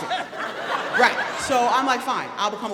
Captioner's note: audience laughing